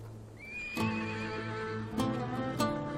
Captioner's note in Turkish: At kişneme sesi